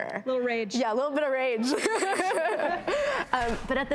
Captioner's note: laughs